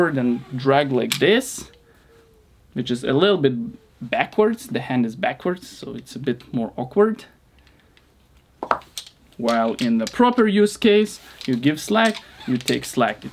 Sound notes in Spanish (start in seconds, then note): none